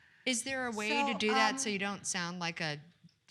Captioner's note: none